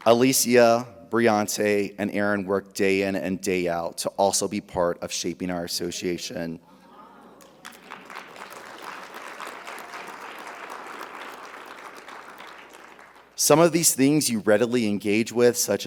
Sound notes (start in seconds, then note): 7.4 audience cheering; 7.4 audience applauding